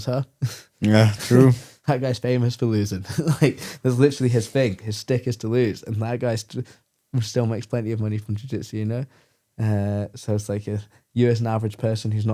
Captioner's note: laughs